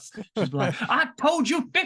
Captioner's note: laughs